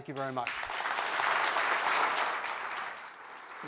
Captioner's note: applause